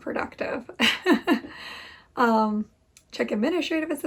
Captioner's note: laughs